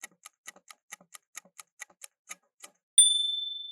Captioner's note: timer ticking